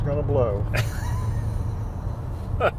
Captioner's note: laughter